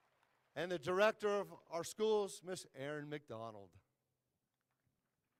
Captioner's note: applause